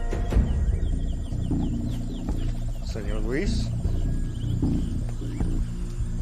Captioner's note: men speaking in foreign language